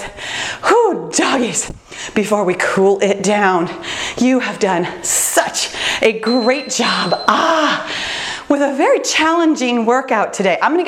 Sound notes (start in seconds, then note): 6.2 bell dinging